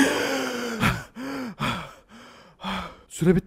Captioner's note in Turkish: nefes nefese kalma sesi